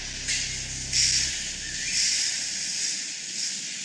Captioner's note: machine whirring